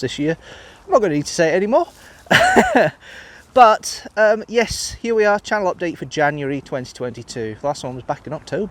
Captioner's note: laughs